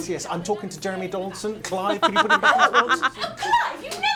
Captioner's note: chuckles